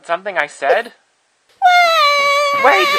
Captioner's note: sobs